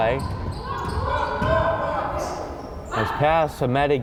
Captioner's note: crowd chattering and yelling